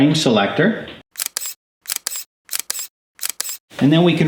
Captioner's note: snap sounds